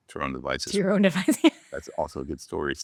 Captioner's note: laughs